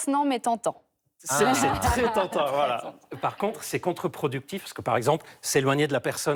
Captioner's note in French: rires